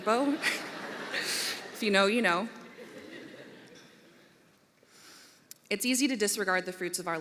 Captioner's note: laughter